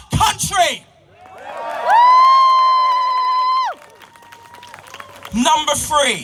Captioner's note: applause from crowd